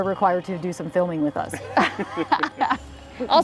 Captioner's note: group laughs